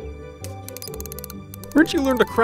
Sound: metal clicking

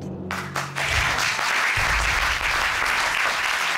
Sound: applause

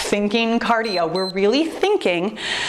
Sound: timer beeps

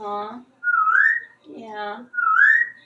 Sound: whistling

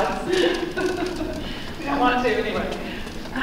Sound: chuckling

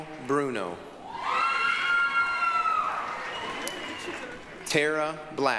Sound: applause, cheering

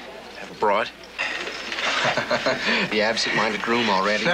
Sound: chuckles

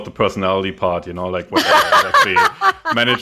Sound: laughs

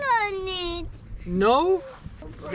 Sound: foreign language

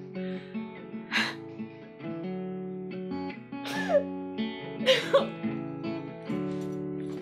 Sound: crying

